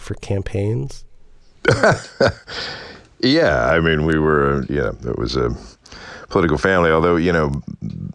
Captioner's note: laughter